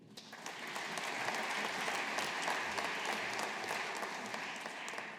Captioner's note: audience applauding